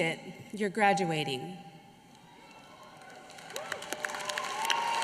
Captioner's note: applause